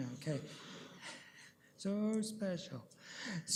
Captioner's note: laughter